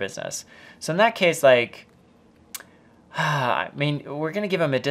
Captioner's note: sighs